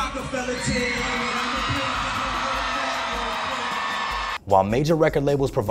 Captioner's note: audience cheers